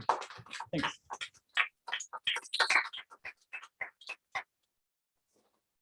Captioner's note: applause